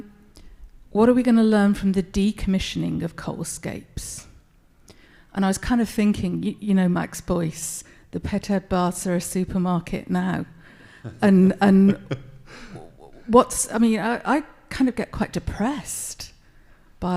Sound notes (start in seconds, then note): 11.0 laughs